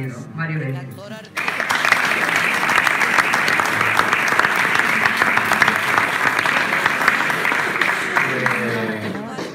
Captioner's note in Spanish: aplausos